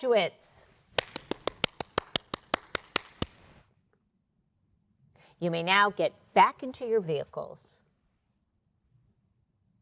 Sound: applause

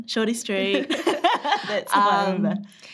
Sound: laughs

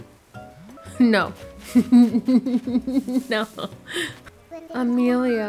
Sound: laughing

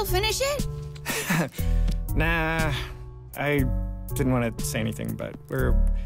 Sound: laughs

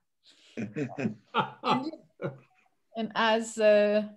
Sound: laughing

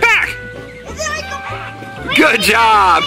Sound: yelling

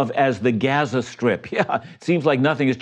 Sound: chuckles

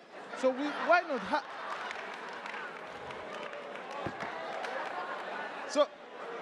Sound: attendees applauding and laughing

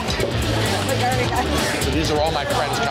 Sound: crowd murmuring

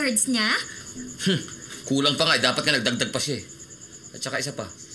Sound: scoffs

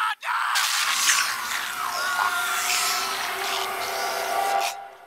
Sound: screaming; slurping

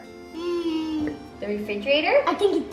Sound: hums

